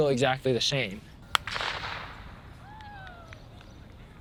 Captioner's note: starter pistol fires